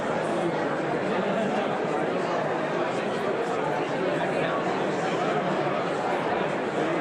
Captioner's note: audience continues indistinctly chattering